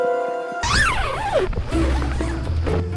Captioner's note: zipping